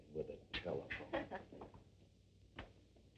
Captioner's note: giggling